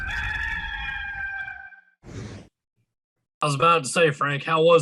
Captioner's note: rooster crowing